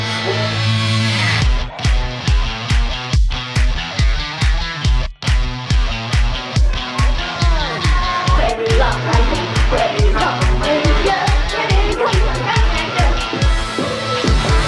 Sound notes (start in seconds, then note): 0.3 energetic rock music; 9.1 kids chant